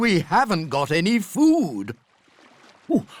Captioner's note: none